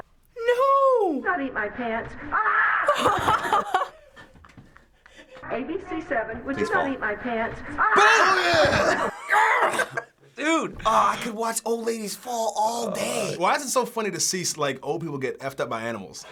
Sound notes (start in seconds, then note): 2.3 laughs uncontrollably; 2.4 shrieks; 7.8 chuckles